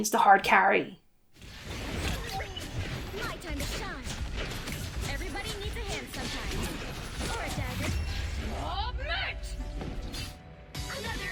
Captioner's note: battle noises